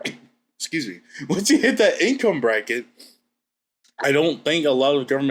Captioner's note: sniffs; laughs